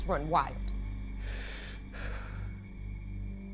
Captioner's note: Jeremy breathes heavily